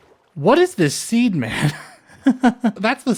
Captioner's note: chuckle